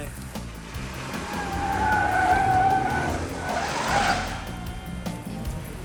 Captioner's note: tires Screeching